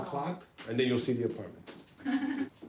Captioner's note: laughs